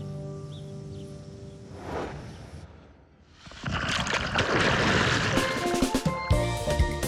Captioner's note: birds chirping